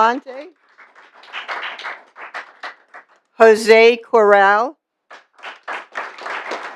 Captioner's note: applause